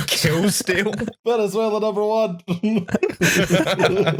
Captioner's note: laughter